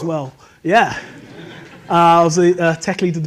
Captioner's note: audience laughs